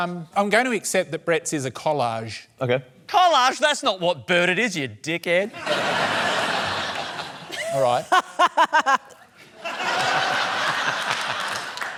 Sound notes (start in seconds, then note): 5.6 laughter; 7.4 anisa laughs; 9.3 laughter